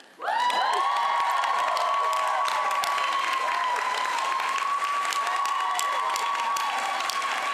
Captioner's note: applause